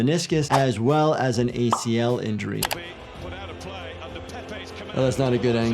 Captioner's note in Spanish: clics del ratón